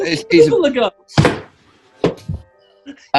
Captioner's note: thud